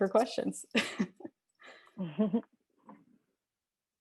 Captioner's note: laughs